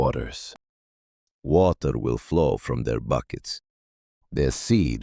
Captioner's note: calmly